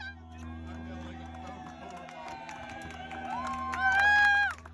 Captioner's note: crowd cheering and clapping